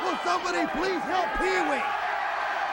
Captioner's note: crowd cheering